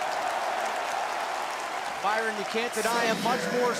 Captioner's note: crowd cheering